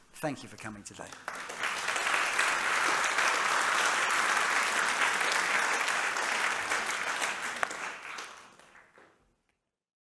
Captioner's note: applause